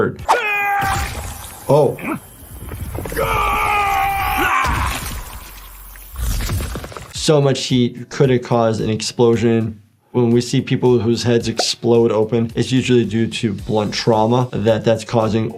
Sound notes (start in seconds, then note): 0.1 Homelander grunts; 2.9 Omni-Man grunts; 3.0 Omni-Man screaming; 4.4 Homelander grunts; 4.4 flesh squelches